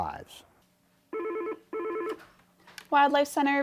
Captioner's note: phone ringing